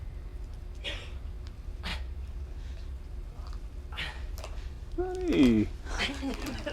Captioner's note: gasps; laughter